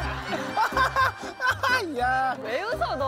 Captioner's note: Laughing hysterically